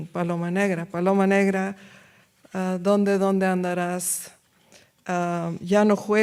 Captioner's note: speaks in foreign language